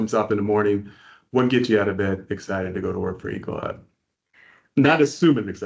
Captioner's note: laughing